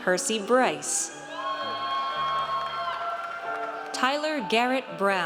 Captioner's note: audience cheers